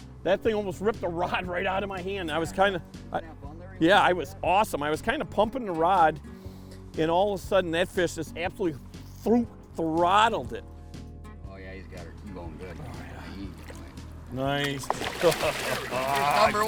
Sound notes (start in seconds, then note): 3.4 talking in background; 15.2 laughing